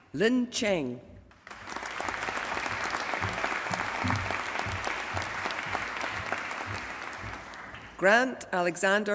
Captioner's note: applause